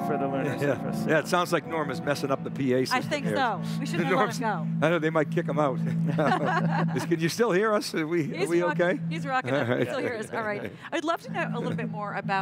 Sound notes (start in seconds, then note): 0.7 piano playing; 5.8 laughing